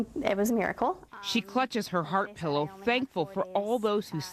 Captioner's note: voiceover